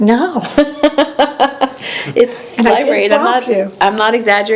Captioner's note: laughing